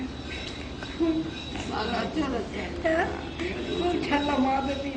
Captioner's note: sobbing